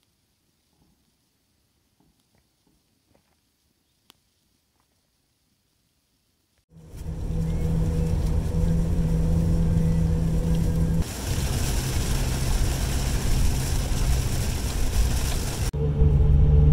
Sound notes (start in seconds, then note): 6.7 sound of light rain; 11.0 sound of heavy rain